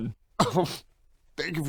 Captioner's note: scoff